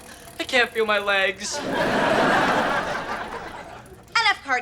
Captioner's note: audience laughter